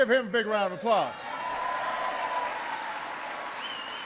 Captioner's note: applause